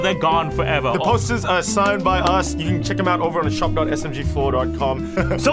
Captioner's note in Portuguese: Chuckles